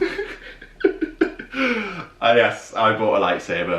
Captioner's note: laughing